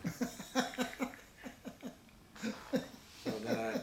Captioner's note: laughs